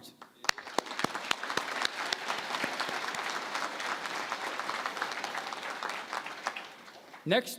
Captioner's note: applause